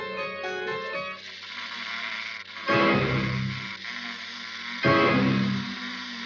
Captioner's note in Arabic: تُصدر الدمية صوتًا مُرعبًا